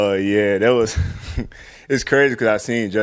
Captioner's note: laughs